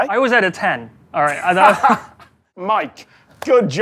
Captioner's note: laughs